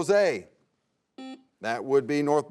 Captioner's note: buzzer sounds